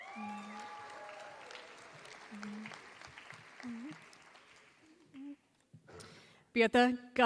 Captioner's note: applause